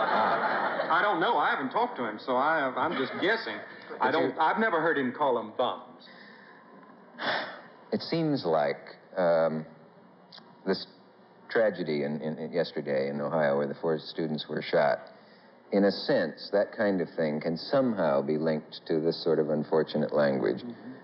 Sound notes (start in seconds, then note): 0.0 laughter; 7.2 sighs